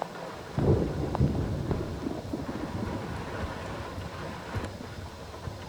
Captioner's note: thunder and rain continue